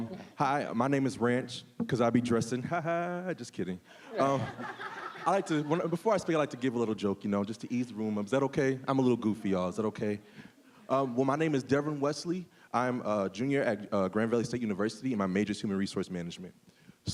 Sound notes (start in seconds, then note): 4.0 audience laughing; 4.0 laughing